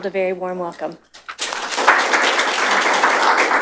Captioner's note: applause